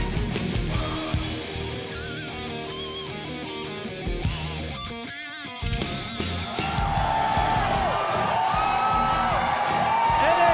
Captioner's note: crowd cheering